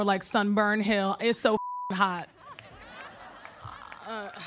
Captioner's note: beep; audience laughing